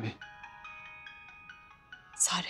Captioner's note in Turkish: Telefon Çalıyor